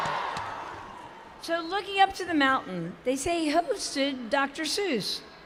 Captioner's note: cheers